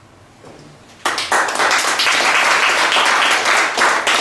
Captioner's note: guests applaud